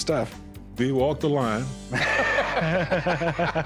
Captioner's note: laughter